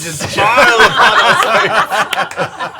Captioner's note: laughter